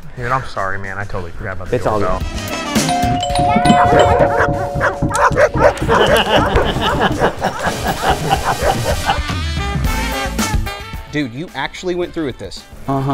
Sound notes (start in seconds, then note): 2.8 doorbell ringing; 3.7 barking; 5.1 laughing